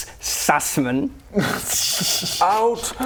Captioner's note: uneasy laughter